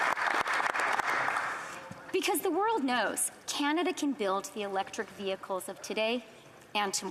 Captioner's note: applause